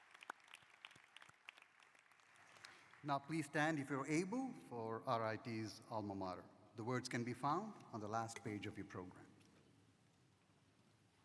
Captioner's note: applause